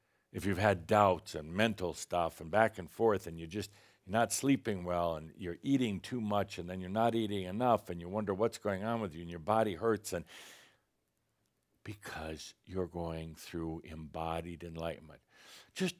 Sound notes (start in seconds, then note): none